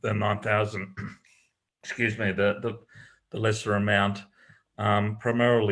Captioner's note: coughs